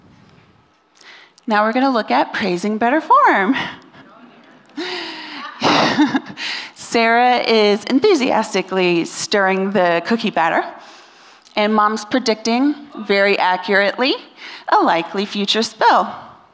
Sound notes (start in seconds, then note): 5.3 laughter